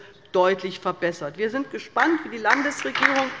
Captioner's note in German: Beifall bei der LINKEN